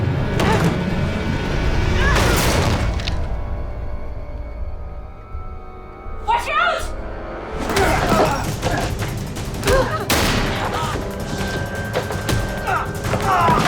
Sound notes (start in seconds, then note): 9.3 gasps; 10.0 gunshot; 11.0 both grunting